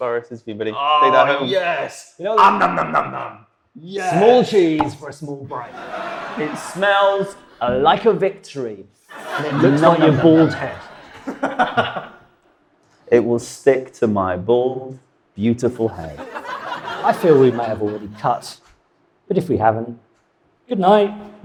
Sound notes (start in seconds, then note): 5.5 audience laughs; 15.7 audience laughs